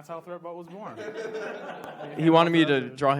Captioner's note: audience laughs